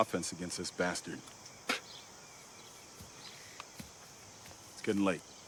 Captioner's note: spitting